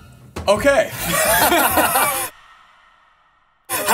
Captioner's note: both laugh